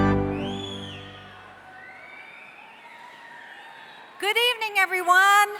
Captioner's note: cheering